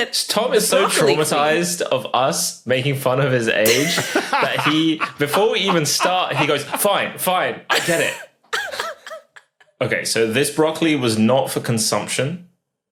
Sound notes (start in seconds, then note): 3.6 laughs heartily; 8.5 giggles